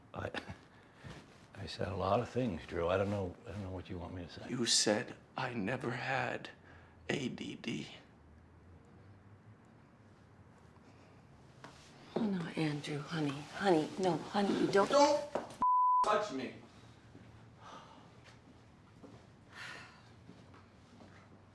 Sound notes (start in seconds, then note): 0.5 chuckles; 17.7 Kate sighs